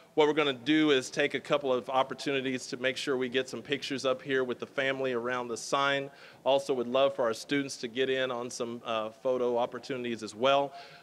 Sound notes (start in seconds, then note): none